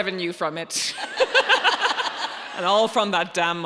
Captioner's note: audience laughing